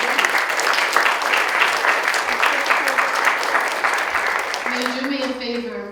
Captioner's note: applause begins